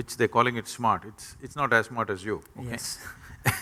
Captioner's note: both Laugh